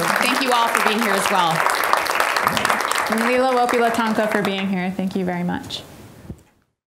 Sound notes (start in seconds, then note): 1.5 applause; 3.5 speaking Lakota